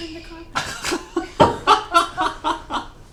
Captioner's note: laughter